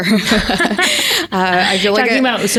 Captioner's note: laughs